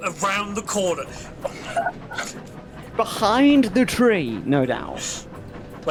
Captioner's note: laughs